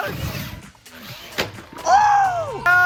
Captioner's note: car revving; car slamming down